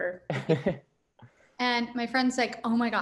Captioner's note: chuckles